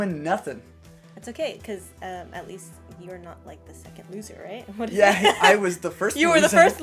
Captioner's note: laughter